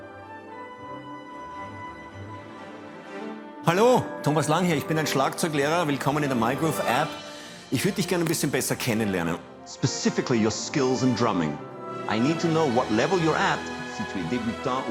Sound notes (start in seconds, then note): 8.9 non-english